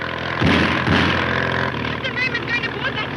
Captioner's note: gunshots cracking